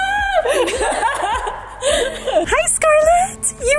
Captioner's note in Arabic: يضحكان